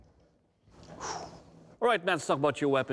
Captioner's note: exhales